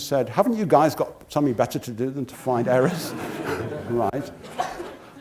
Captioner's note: laugh